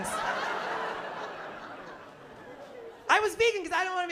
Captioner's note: laughter